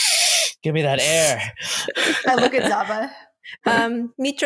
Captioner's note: inhales again